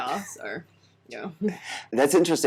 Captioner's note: laughs